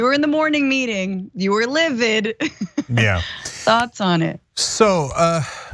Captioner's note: laugh